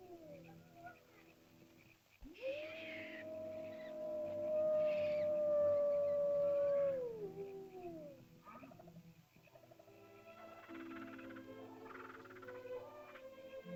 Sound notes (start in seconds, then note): 0.0 animal howls; 0.0 ominous music; 2.2 animal howls; 2.3 small animal screeches; 9.7 soft music